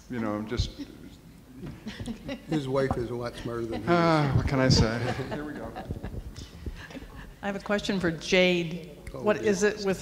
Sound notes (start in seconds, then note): 1.8 chuckles; 4.9 sighs